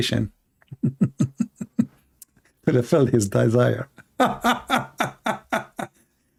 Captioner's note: Ketawa